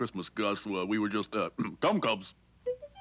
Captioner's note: clears throat